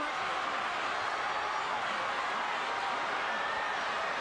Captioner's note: crowd chattering